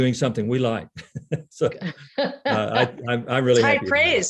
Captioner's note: laughs; laughing